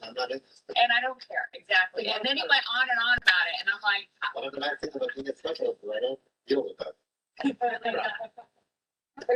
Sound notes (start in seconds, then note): 0.8 fast Spoken Woman; 1.8 sharp Voiced Woman; 7.4 laughs